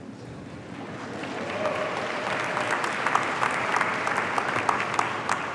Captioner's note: audience applauding